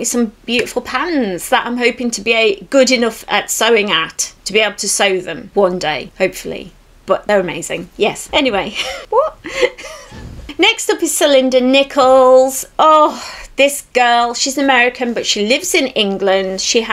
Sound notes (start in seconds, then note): 8.6 laughs